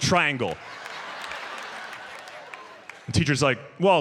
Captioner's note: audience laughs